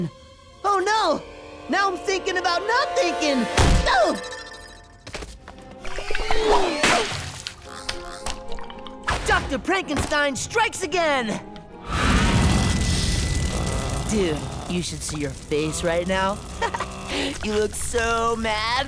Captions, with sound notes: Oh, no. Now I'm thinking about not thinking. Oh. Dr. Prankenstein strikes again. [growling] Dude, you should see your face right now. [chuckles] You look so mad.